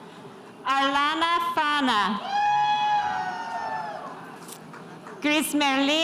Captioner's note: spectators cheering